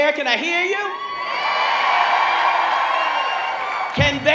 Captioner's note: audience cheering